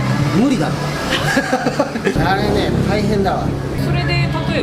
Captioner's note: laughs